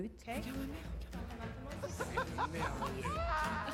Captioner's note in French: rires